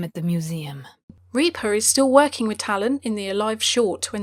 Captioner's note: voiceover